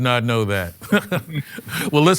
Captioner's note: <i>laughs</i>